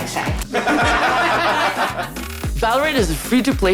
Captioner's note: group laughs